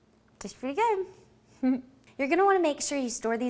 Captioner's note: giggling